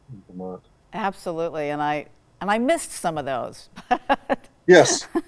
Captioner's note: laughs